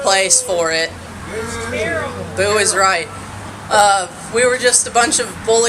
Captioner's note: booing